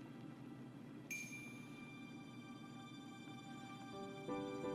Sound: bell dinging

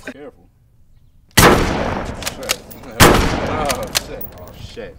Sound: gun firing

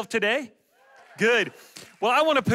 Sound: audience cheers

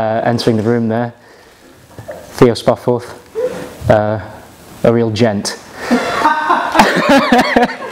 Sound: laughter from background

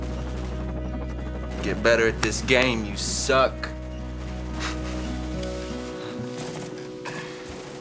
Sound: chuckles

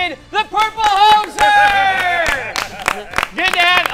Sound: applause

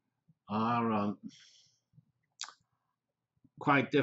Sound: pause

